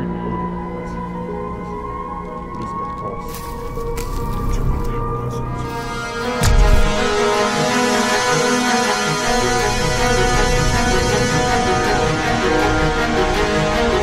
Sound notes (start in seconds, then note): 5.2 intense music; 6.4 gun firing